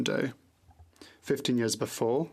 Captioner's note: speaking French